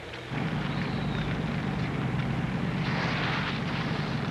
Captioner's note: engine humming